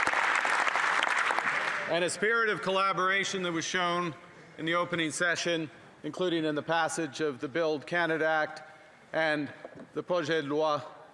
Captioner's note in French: applaudissements